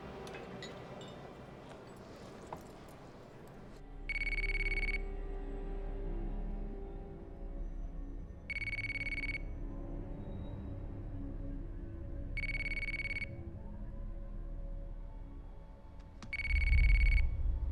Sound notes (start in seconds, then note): 4.1 phone ringing; 4.8 brooding music